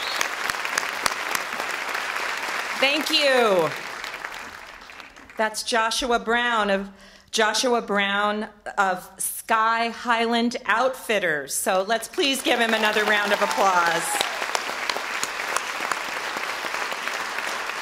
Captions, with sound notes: - Thank you! That's Joshua Brown of Sky Highland Outfitters, so let's please give him another round of applause. (audience applause)